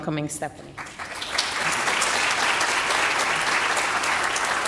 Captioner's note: audience applauding